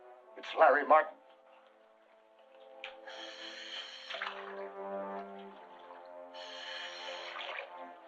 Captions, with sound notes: It's Larry Martin! [loud breathing]